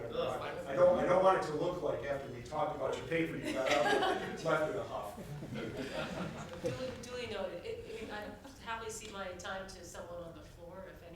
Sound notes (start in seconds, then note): 3.4 panel laughs; 5.2 everyone laughs